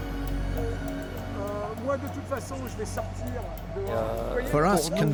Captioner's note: man speaking French